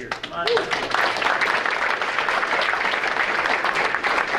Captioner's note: audience applauding